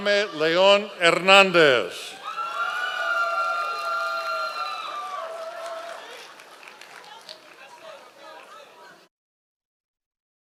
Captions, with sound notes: Haimed Leon Hernandez. (members of the audience cheering)